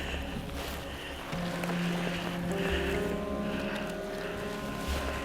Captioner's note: heavy breathing